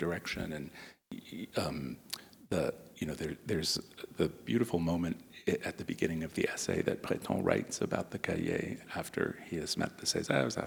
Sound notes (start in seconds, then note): none